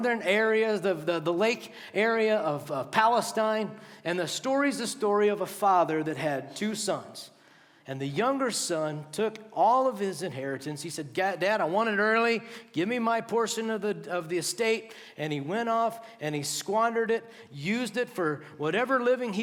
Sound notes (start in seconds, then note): none